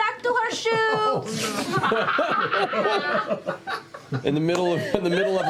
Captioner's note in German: lachen